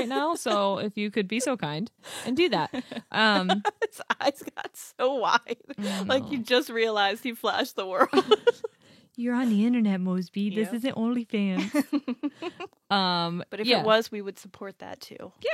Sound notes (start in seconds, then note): 2.7 laughs